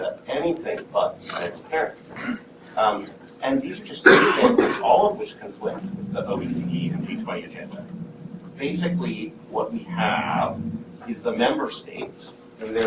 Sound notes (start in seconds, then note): 4.0 coughing